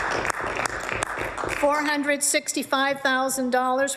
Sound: applause

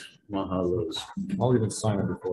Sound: speaks in foreign language

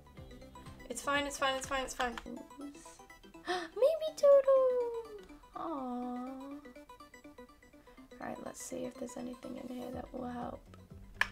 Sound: gasp

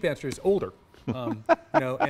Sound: laugh

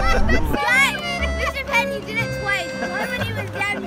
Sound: laughing

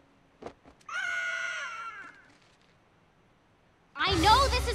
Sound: squawking

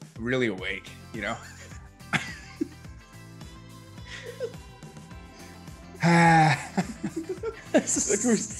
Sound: laugh

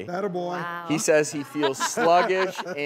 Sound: laughing

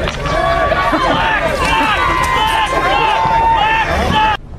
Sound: crowd cheers; crowd yells

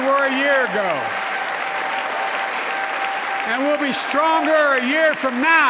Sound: applause

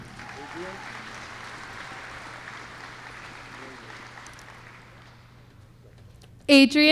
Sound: applause

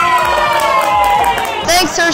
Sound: cheers

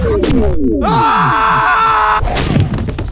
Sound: scream; hits the floor

